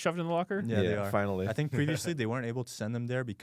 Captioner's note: laughs